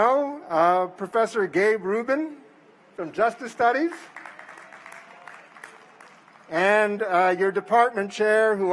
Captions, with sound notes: FROM THE DEPARTMENT OF PHILOSOPHY, KIRK McDERMID. [APPLAUSE] AND THEN TWO PEOPLE I HOPE YOU